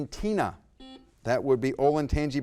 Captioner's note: buzzer blaring